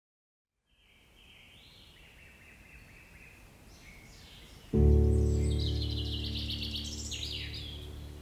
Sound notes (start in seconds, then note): 0.7 birds chirping; 4.7 slow soft music